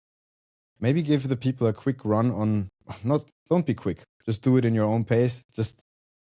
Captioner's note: scoffs